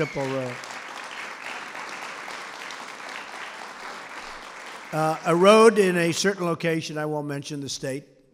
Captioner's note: applause